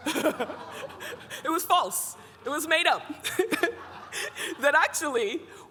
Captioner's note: everybody laughing